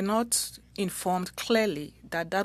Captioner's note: speaking French